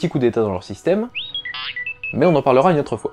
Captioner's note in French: R2 siffle